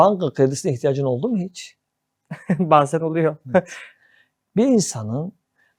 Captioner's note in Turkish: kahkaha